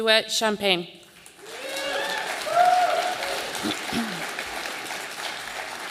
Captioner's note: audience applauding